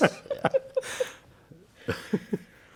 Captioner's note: laughter